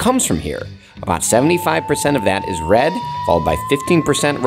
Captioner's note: slide whistle blows